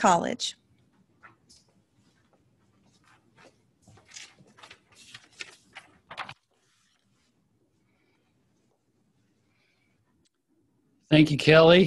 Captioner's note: silence